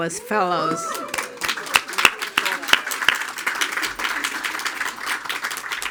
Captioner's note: attendees cheering and applauding